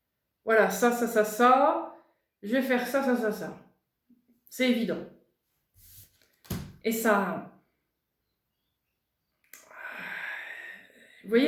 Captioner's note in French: soupir